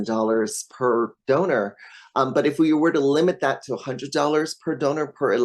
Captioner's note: none